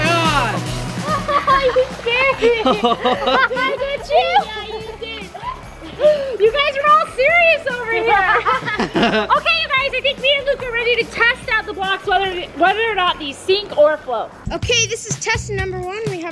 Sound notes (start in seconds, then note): 1.7 laughs; 3.1 laughter; 4.8 laughs